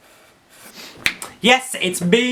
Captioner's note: snaps fingers